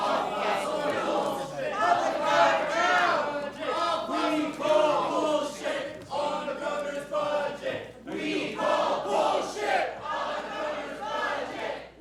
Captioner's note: chanting